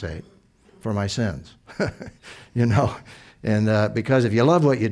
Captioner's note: chuckle